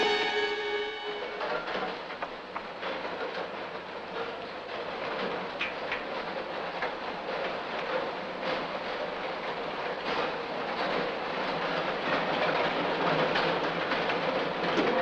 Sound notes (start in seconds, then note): 2.8 train whistle blowing